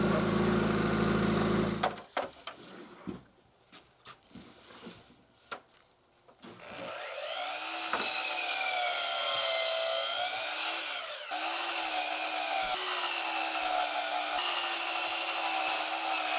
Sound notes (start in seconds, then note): 8.0 saw grinding